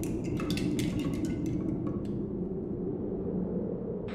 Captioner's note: wind whistling